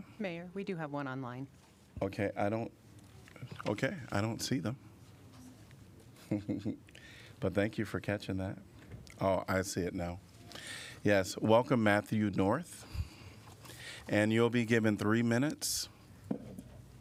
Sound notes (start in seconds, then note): 6.2 laughter